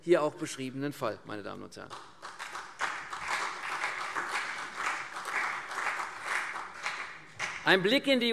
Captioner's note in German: Beifall CDU und BÜNDNIS 90/DIE GRÜNEN